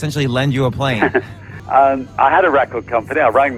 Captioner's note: chuckling